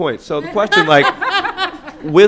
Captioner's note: laughter